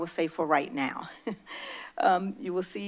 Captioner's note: chuckles